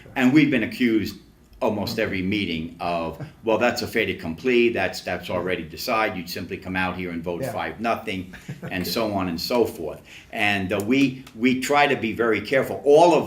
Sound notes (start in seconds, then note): 3.1 laughs; 8.3 laughs